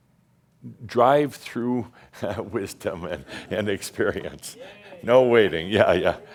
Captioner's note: Adamus chuckles